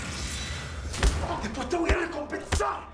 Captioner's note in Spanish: Golpes